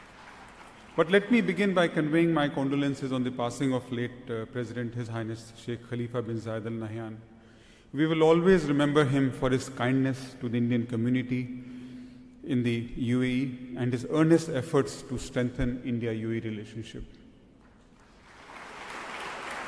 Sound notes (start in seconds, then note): 17.9 applause